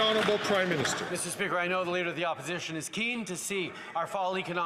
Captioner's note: applause